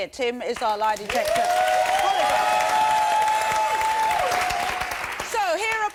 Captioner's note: cheers and applause